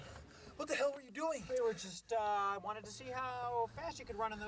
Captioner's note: panting